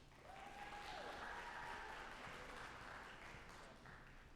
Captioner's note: audience applauding